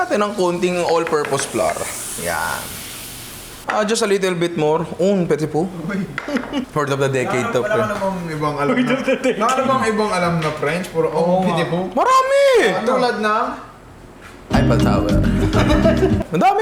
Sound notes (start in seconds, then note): 5.4 speaks French; 5.8 laughs